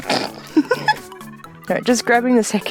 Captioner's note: laughs